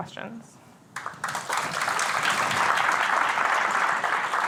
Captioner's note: applause